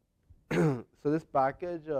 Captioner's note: cough